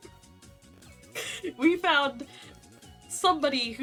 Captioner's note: inhale